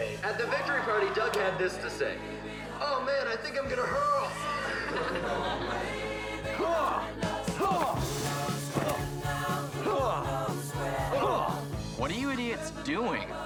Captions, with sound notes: The victory party Doug had this to say. Oh, man, I think I'm going to hurl. [LAUGHTER] [GRUNTING] What are you idiots doing?